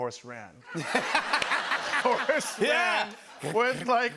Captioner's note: laughter